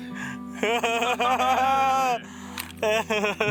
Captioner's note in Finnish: naurua